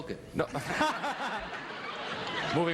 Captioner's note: audience laughs